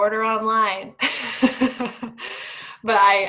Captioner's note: laughing